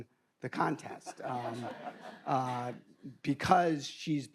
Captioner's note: audience laughing